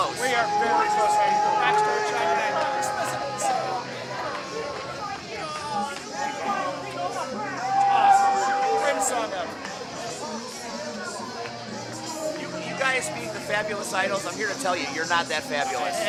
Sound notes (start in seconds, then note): 5.6 crowd booing